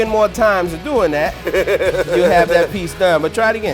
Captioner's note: laughing